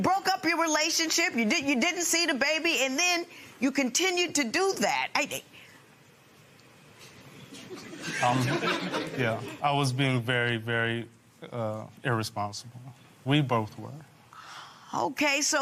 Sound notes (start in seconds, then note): 7.5 laughter